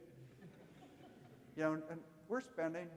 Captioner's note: audience laughing